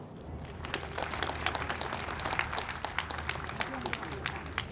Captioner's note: audience applauds